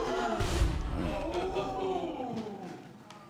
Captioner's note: audience gasps